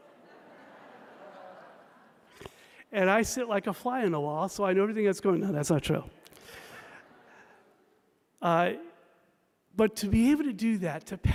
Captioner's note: laughter